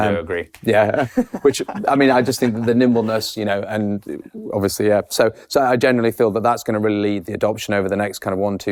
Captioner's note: laughs